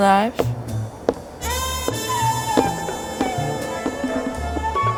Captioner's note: light footsteps